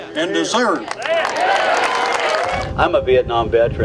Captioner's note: crowd clapping and cheering